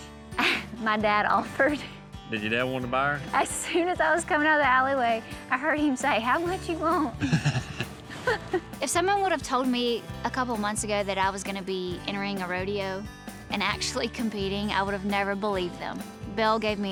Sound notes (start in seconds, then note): 7.2 both chuckle